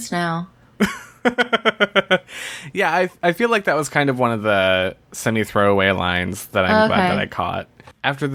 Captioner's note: laughs